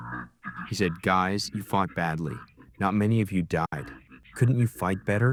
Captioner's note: through translator